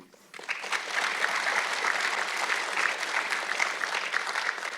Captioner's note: audience clapping